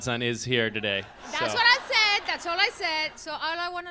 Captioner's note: laughs